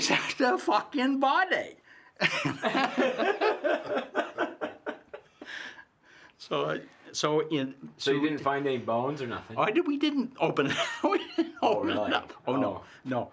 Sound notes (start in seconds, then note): 2.2 laughs